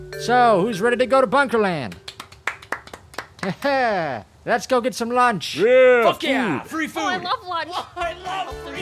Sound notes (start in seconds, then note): 1.9 half-hearted applause